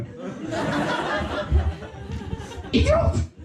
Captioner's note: bursting laughter